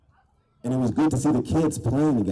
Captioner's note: none